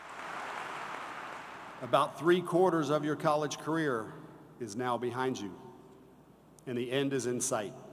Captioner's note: applause